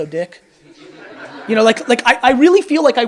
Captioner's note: audience laughs